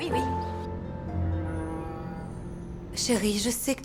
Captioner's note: boat horn blows